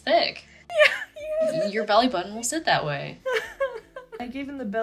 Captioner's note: exasperated crying